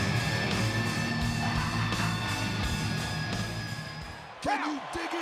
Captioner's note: singer laughs